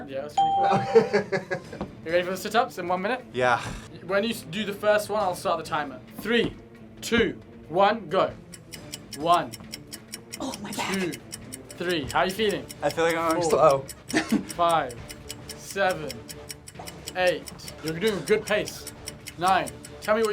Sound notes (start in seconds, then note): 0.6 laughs; 8.4 clock ticks